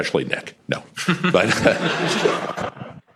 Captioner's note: chuckles